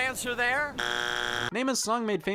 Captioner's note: buzzer buzzing